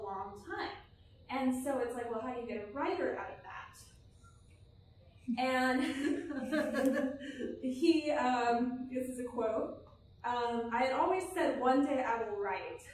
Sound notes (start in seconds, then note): 5.7 laughter